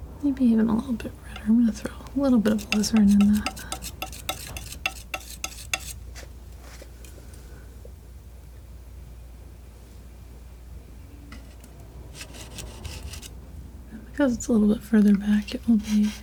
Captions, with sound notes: Maybe even a little bit redder. I'm gonna throw a little bit of all this right in that. (metal scraping) Because it's a little bit further back, it will be...